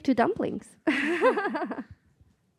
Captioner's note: laughing